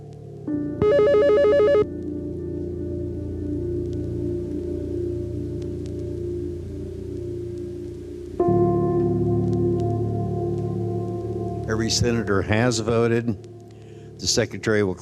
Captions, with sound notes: [voting alarm blares] Every senator has voted. The secretary will